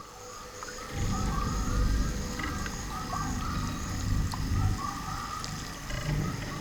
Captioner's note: animals chirping; water dripping